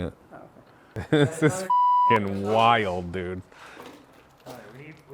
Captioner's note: beep